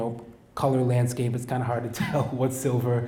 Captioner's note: laughs